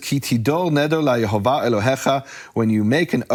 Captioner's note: speaking foreign language